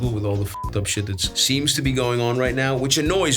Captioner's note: beeps